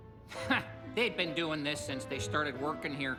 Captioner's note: scoffs